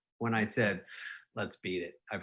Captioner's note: air blowing